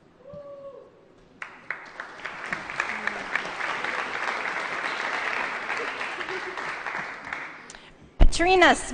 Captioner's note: applause